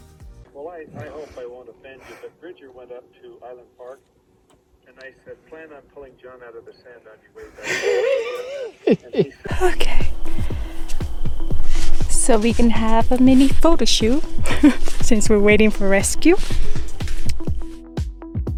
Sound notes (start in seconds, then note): 7.4 laughs; 13.6 laughs